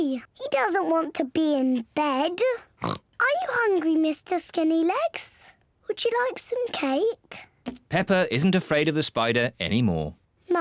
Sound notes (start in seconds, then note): 2.8 oinks